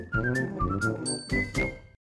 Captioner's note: whistling